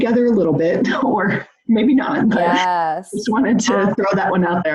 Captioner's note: laughs